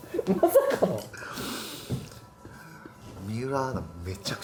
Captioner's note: laughs